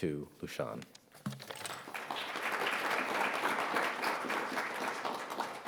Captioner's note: audience applauds